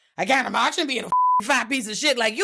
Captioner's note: beep